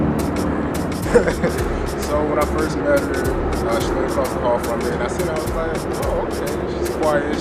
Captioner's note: laugh